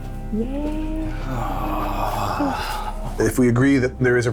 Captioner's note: exhales